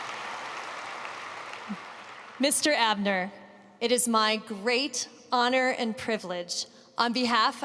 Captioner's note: applause